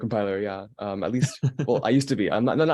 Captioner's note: laughing